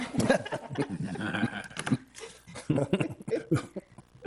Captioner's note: people laugh